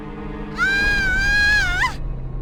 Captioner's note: screaming